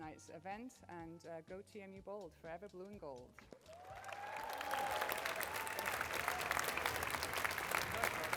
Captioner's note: applause